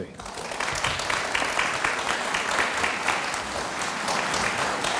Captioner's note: audience applauds